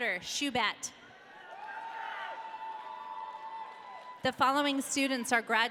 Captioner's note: audience cheering